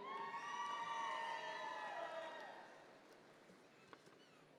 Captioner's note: audience members cheer